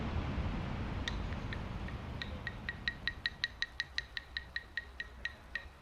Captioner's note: claps sticks